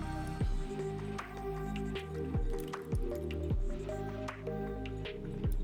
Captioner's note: clicking